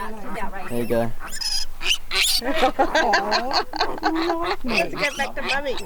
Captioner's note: pig squealing; women laughing